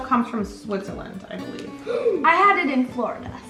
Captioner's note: gasps